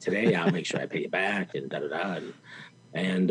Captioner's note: interviewer laughs